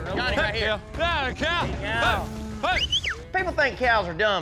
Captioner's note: whistles